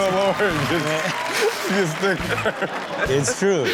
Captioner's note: all laugh